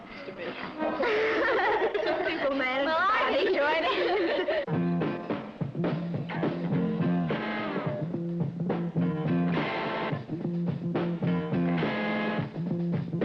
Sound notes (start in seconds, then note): 0.3 laughing; 4.6 upbeat rock music